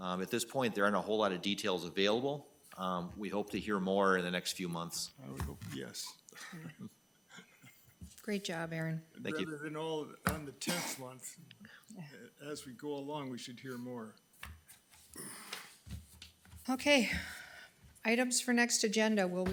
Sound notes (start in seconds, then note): 6.3 laughing